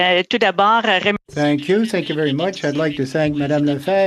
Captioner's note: speaking French